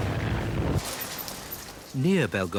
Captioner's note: engines roaring; debris clattering